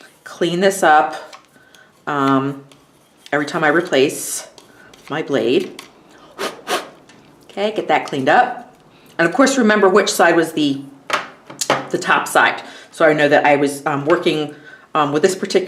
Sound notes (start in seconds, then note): 6.1 blows sharply